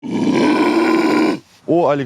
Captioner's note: growling